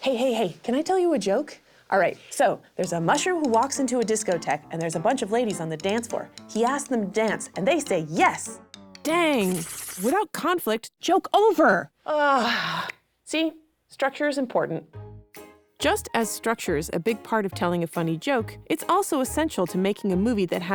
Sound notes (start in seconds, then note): 9.4 scribbling; 12.3 groans